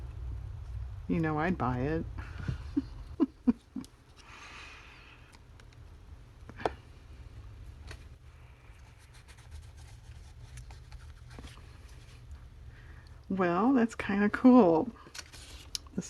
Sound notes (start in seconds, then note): 8.1 laughs